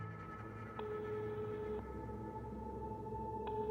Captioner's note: mobile ringing